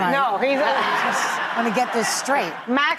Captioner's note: laughter